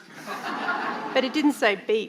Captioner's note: audience laughing